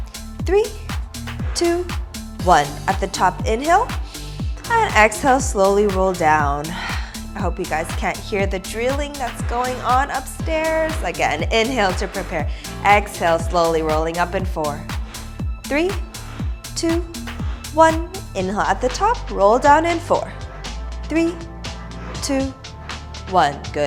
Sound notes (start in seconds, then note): 6.6 exhales